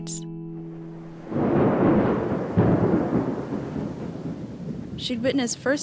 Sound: thunder rumbling

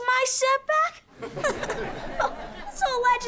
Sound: laughing

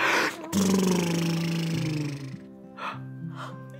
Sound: making propeller sounds; both gasping

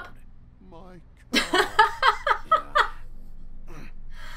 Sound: laughs

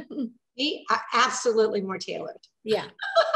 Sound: laughing

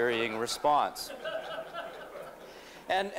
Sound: laughter

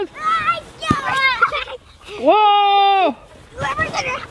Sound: giggling

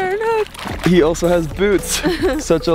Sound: water splashing

